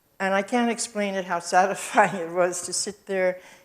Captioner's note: chuckles